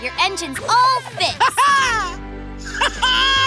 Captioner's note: laughing